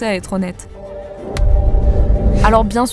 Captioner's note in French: clap